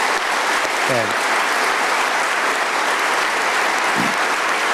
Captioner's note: applause